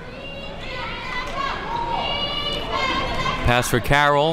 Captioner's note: crowd talking